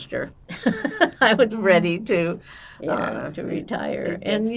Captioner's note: laughing